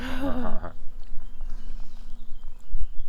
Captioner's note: laughter